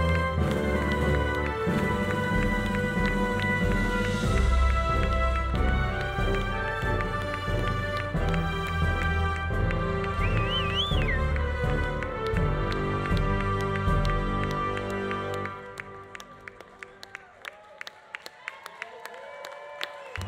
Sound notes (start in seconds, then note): 10.2 audience applauding; 10.2 audience whistling; 16.8 audience applauding; 16.8 audience cheering